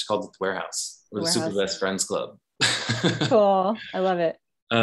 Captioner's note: laughs